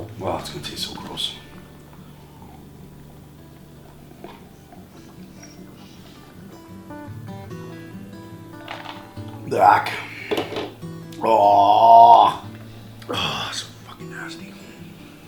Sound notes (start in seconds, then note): 4.7 guitar playing; 10.4 thud